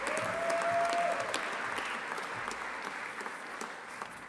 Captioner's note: audience applauding; audience cheering